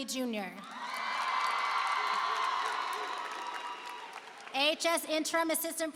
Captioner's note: applause and cheering